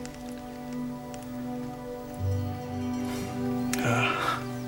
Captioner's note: bell rings